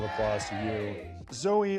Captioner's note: cheering